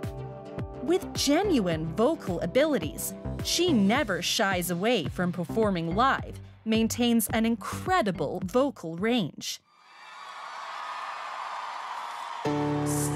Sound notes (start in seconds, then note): 9.8 crowd cheering